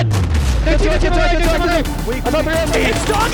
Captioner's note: overlapping shouting